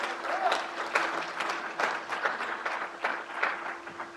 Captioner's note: crowd applauds